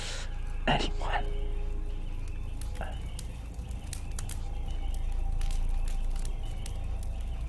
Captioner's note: dark music; fire crackling